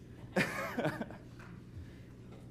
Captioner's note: laughs